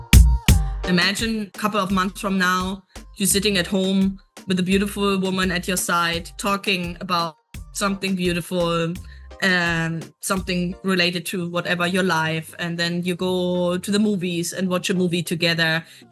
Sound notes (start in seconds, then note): 5.0 Latin